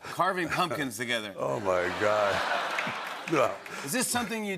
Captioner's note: laughter and applause